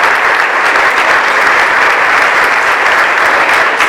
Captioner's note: applause